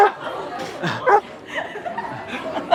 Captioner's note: laughing